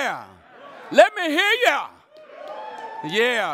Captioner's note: audience cheering